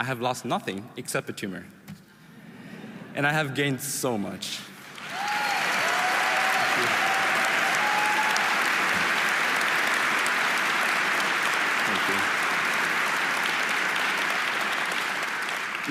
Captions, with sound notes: I have lost nothing except the tumor and I have gained so much. (audience applauding) (audience cheering) Thank you. Thank you.